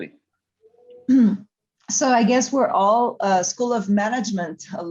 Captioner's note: clears throat